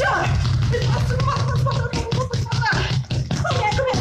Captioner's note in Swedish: Ljudet av stampande fötter överröstar